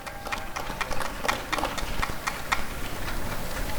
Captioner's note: applause and cheering